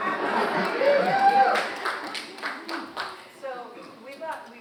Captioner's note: audience cheering